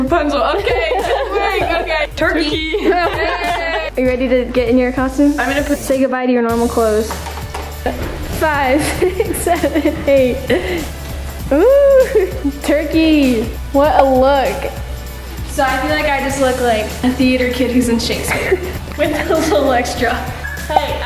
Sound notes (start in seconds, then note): 3.2 laughing